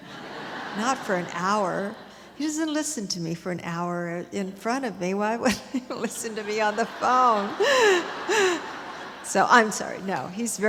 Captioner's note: audience laughter; audience laughter